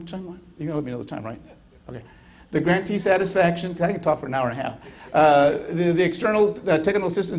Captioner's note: laughter